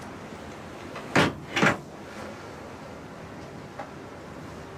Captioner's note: door slams